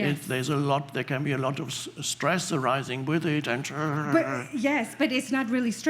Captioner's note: gnaws